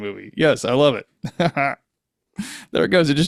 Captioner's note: laughing